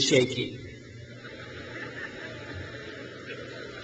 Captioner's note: crowd laughs